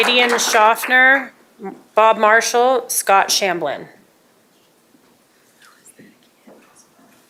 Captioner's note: applause